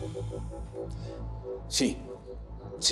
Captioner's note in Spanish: exhala